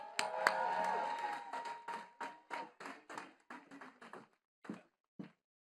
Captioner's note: attendees cheering and clapping